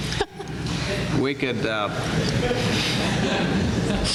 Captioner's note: laughter